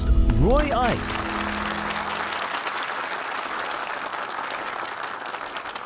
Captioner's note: audience applauding